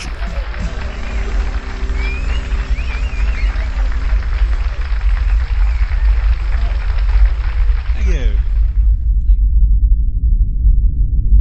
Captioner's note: song ends.. Applause